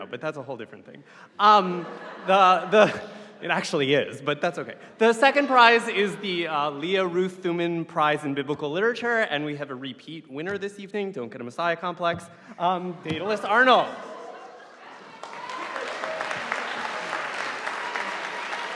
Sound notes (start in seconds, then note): 13.9 audience applauding